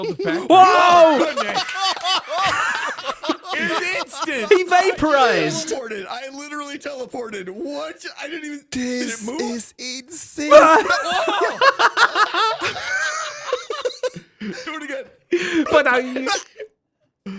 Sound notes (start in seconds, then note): 0.0 EVERYONE laughs; 10.3 laughs